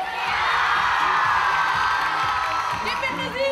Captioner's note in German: Jubel